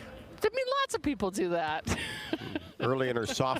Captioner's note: chuckles